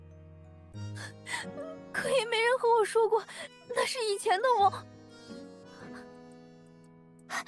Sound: sob

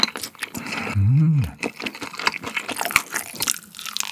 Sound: impressed

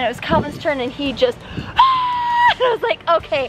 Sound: screams

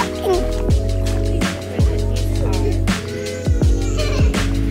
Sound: kids laughing

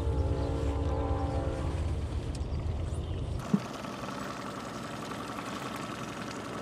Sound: train horn in distance; boat engine idling

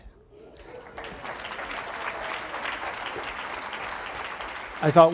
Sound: audience applauds

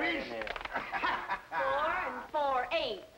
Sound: men laughing

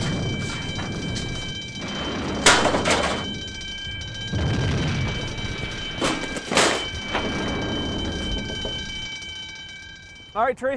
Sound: alarm bell ringing

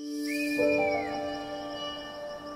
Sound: kestral screeches

